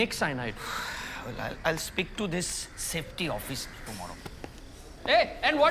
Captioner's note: exhales